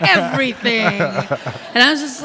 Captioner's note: laughing